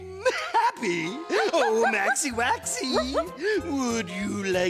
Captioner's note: dog barking